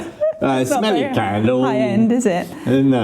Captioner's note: laughing